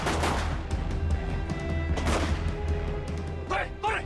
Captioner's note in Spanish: Disparos